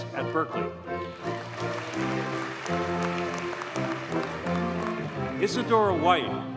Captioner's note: audience cheers and applauds